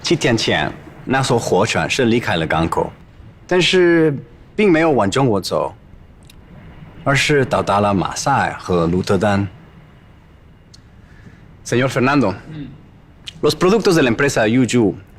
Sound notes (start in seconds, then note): 12.2 Spanish; 14.8 Spanish